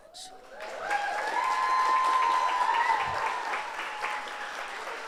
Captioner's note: audience applauds